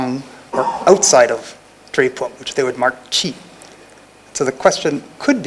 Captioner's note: non-english; non-english